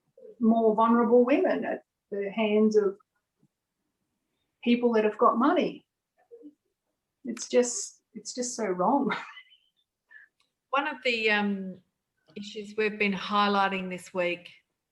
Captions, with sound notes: more vulnerable women at the hands of people that have got money. It's just so wrong. (chuckling) - One of the issues we've been highlighting this week